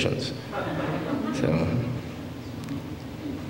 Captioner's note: laughter